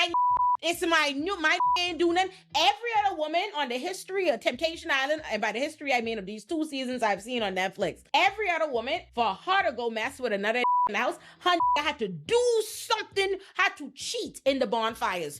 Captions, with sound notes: (beep) "This my new, my (beep) doing." Every other woman on the history of Temptation Island, and by the history I mean of these two seasons I've seen on Netflix, every other woman for her to go mess with another (beep) and else her (beep) had to do something, had to cheat in the bonfires.